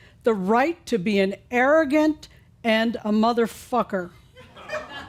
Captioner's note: a few chuckles